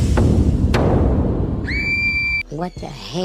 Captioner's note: scream